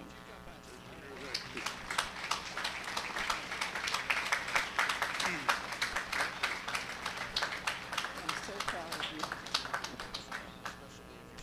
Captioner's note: applause